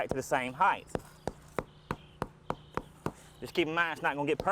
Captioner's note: hammer pounding